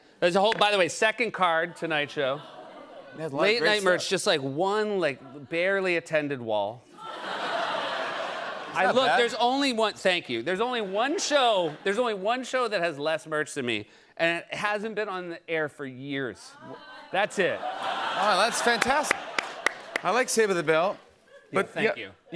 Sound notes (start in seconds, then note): 6.9 laughter